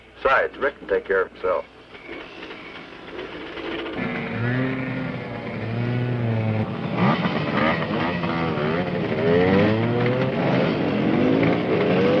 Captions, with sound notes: Besides, Rick can take care of himself. [motorcycles revving]